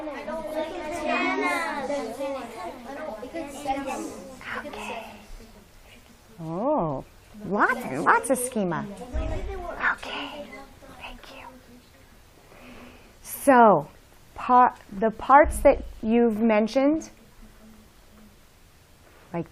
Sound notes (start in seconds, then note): 5.2 whispers; 9.6 whispers